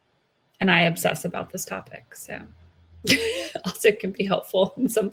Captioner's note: laughs